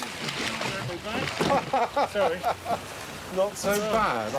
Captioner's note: laughing